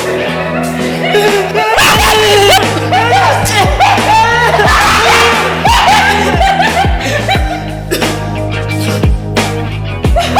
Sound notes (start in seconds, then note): 1.0 Malcolm whimpering; 2.1 Malcolm yelling & coughing; 2.1 Mooshie laughing; 2.1 slashing